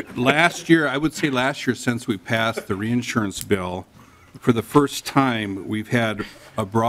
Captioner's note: laughing